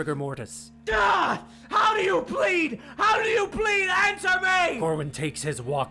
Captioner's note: screaming